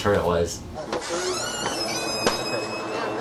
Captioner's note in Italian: porta che cigola